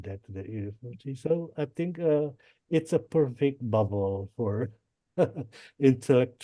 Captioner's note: laughs